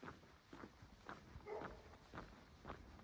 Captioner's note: dog barking nearby